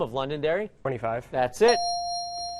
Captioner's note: dinging